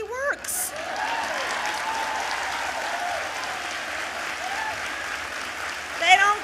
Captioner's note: applause